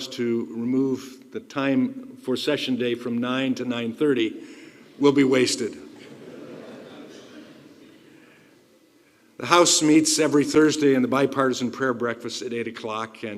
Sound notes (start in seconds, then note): 5.9 laughter